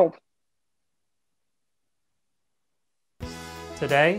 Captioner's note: silence